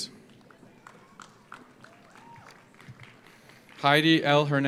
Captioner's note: audience applauds